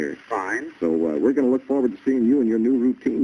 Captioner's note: on phone